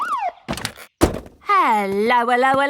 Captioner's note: siren stops